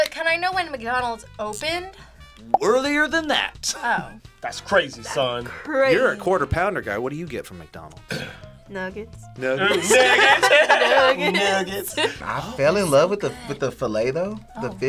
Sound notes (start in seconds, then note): 3.8 laughs; 9.6 group laughs